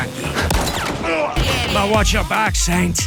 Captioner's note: gunshot cracks